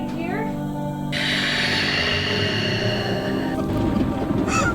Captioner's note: growling